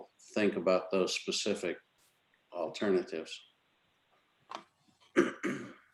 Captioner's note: clears throat